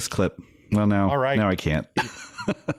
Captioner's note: laughing